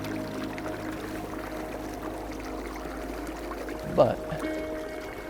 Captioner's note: water flowing